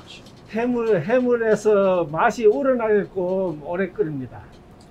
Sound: speaking in Korean

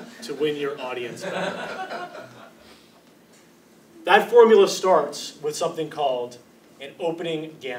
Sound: laugh

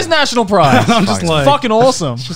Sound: laughing

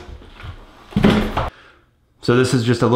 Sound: clattering

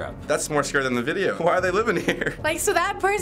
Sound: laughing

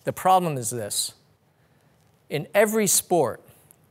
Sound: none

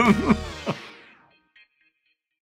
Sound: laughs

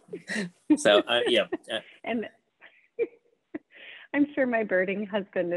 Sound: both laughing

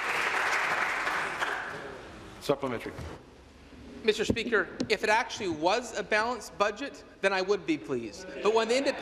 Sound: applause

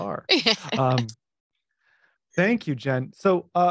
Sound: laughs

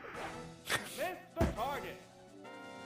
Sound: laughs

